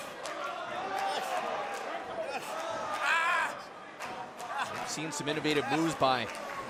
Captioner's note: crowd chatter